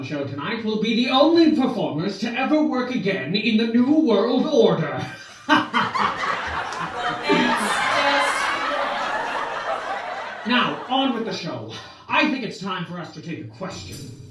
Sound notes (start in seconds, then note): 5.0 laughter